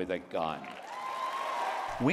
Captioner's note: cheering and applause